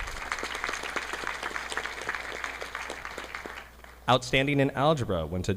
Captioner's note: audience clapping